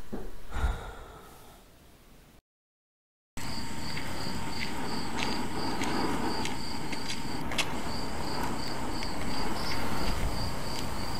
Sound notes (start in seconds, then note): 0.5 sighs; 3.4 crickets chirping